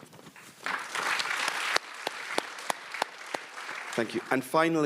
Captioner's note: audience applauds